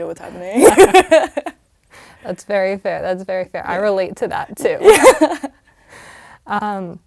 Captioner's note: laugh